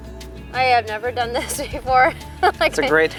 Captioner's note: laughing